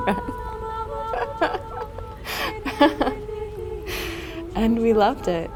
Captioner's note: laughter